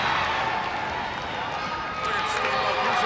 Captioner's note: hands clapping